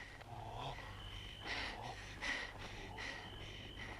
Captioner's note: Hundra shouts; Hundra panting